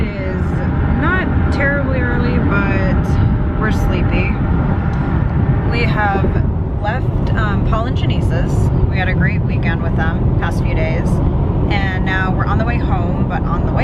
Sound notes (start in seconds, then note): none